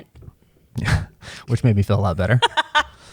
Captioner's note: chuckles